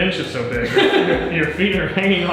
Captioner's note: laughing